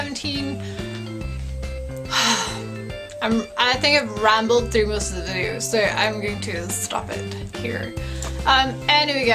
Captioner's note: sigh